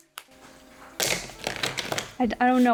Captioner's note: chocolate snapping; chocolate clattering